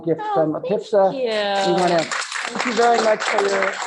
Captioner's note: applause